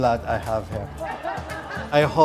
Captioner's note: laughter